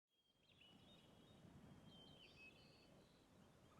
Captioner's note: birds chirping